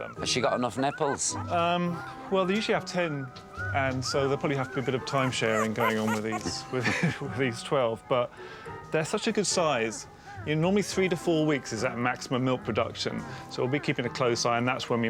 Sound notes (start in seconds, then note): 4.8 chuckles